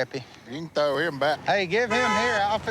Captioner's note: car horn honking